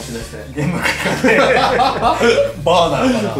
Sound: laughs

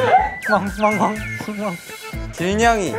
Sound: desperate woof

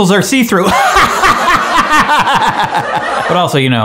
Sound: laughing loudly; audience laughing

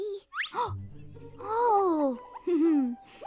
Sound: gasps; giggles

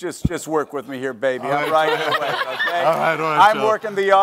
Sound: laughter

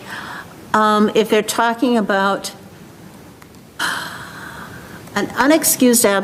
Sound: exhales sharply

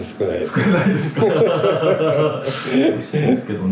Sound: laugh

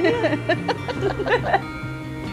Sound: both laughing; bright music continues

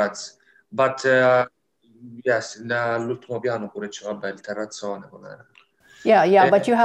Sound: Italian

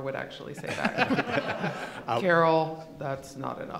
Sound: laughing

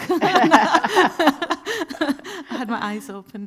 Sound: both laughing

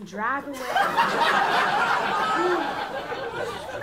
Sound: laughter

